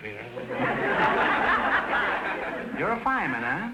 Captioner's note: audience laughter